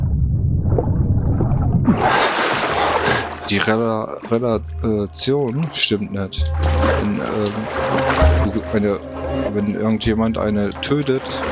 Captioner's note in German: schreien